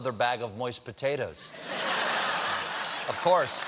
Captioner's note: laughter; applause